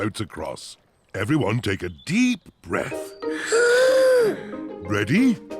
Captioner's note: all inhale